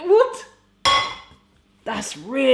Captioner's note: pan clangs